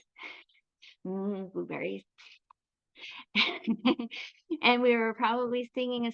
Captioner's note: chuckles